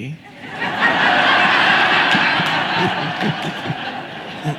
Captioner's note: audience laughing